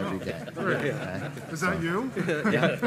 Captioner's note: laughing